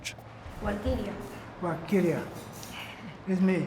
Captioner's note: woman speaking Spanish, repeating; speaking Spanish